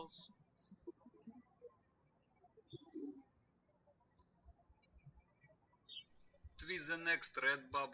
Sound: birds chirping

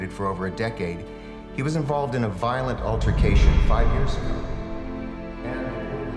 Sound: echoing

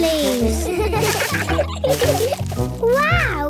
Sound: laughter

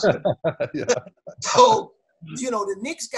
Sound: laughs

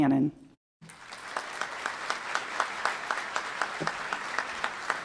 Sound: applause

